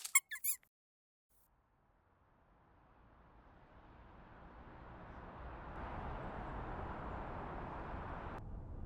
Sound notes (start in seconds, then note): 0.0 mouse squeak; 3.6 city ambience fades in